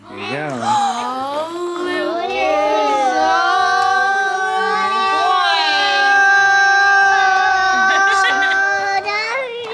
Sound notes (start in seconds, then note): 1.7 kids gasping